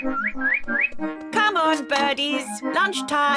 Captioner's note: tweets